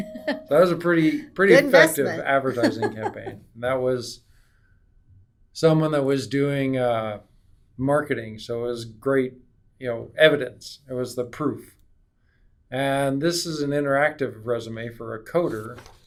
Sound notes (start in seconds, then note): 1.5 laughing; 1.5 laughs